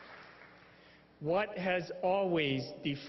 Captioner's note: applause